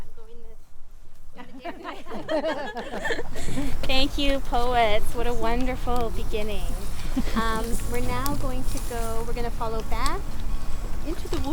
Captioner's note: laughter; laughs